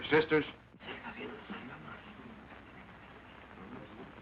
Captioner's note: crowd murmuring